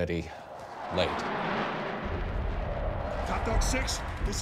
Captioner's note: jets roaring